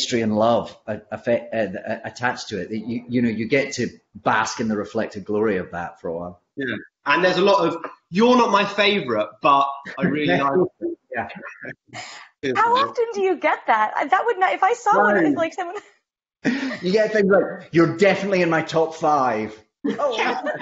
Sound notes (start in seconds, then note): 16.4 laughs